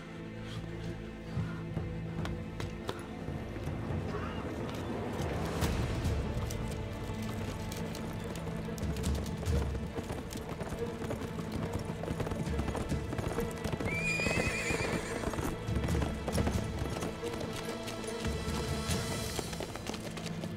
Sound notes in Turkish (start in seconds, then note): 0.1 Müzik - Gerilim; 7.2 At nalı sesleri; 13.8 At kişneme sesi